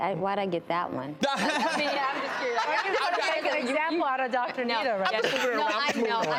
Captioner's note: laughter